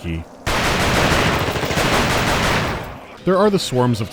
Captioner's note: rapid gunfire